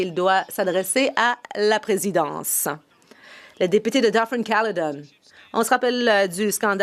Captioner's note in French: voix de l'interprète